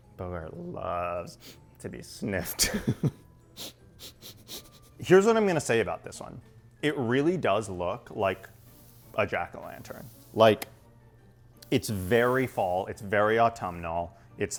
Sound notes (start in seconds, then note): 3.5 sniffs